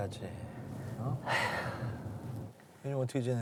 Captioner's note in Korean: 한숨